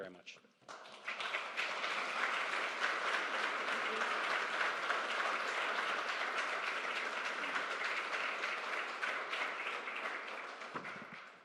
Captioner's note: applause